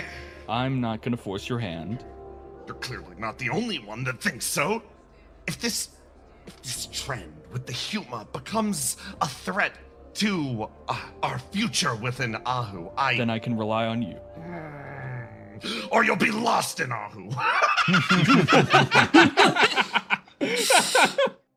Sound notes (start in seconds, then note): 14.3 Yaiyo-Yaiyo Grumble; 17.2 laughs